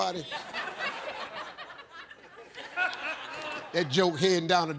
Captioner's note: audience laughs